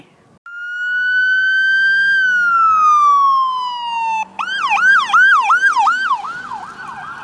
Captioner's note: sirens blaring